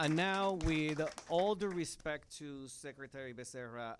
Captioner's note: applause